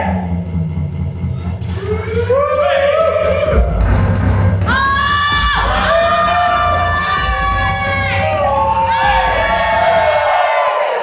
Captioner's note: audience cheers